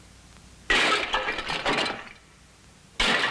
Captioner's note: smashing